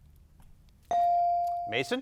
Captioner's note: buzzer dinging